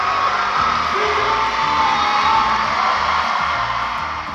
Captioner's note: shouting